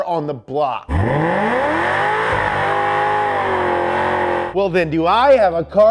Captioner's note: car engine revving